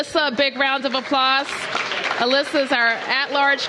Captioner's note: applause